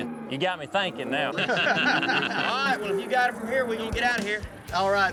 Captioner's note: everyone laughs